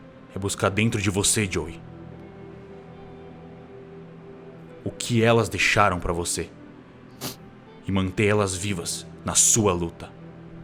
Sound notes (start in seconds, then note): 7.2 sniffs